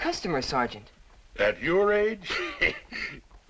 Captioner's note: chuckles